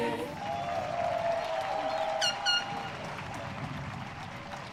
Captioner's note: audience cheering